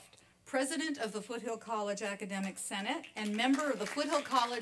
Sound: applause

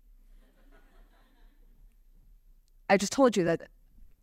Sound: laughter

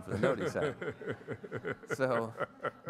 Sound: audience laughs

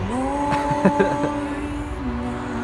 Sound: laughs

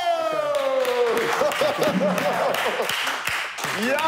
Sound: laughing

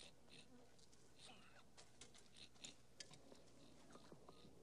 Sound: Kiog snorting

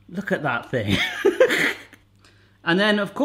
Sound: laughing

